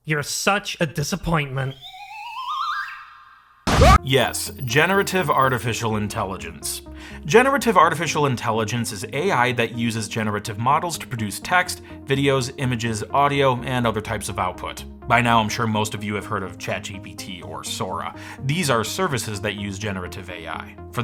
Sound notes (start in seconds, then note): 1.5 ascending whistle noises; 3.6 screams